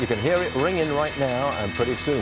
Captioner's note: opening bell ringing